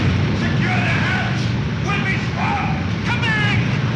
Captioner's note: thunder crashing